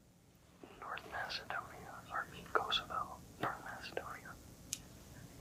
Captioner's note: whispering